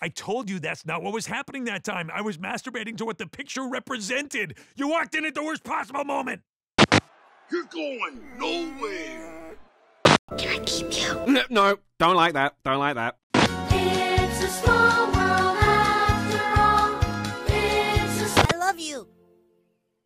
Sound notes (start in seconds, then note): 9.0 whiiiine